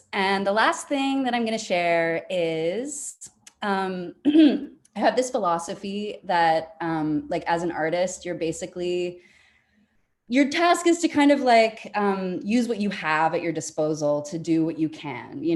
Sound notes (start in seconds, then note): 4.2 clears throat